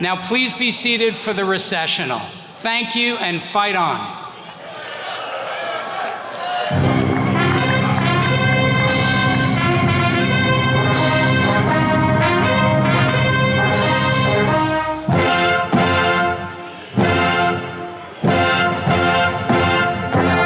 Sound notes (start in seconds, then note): 4.5 attendees cheering; 7.7 jubilant music